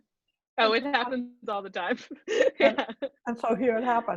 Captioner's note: laughs